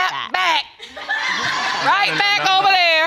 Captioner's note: audience laughing